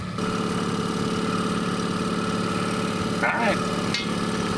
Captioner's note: motor rumbling